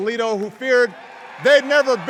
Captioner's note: cheers